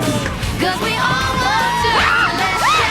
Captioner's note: upbeat music; Lily screams